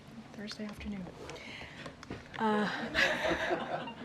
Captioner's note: laughter